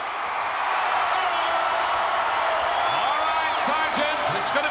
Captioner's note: crowd cheering